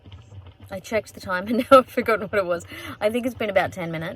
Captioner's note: laughing